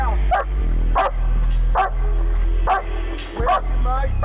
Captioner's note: police Dog barking